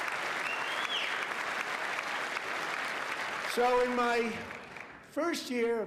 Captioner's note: applause